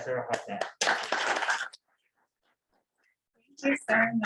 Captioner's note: applause